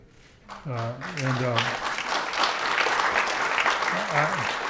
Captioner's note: audience applauding